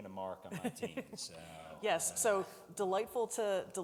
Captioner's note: laughs